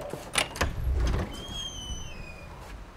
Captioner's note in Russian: скрип двери